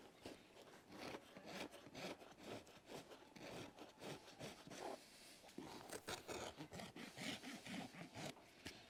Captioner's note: gentle filing with the rasp